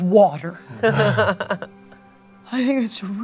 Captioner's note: laughs